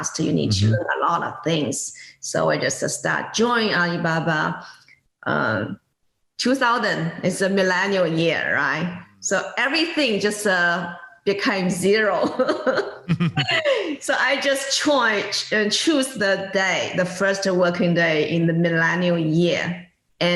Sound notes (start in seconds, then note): 12.5 laughs